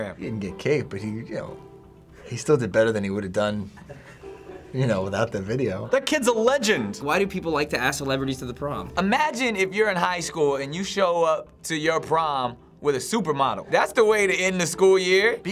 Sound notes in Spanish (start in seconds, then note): 3.7 Finebros ríe